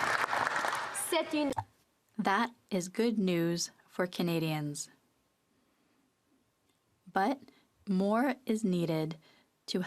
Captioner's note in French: applaudissements